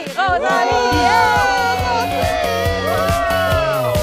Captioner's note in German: Jubel; Dynamische Musik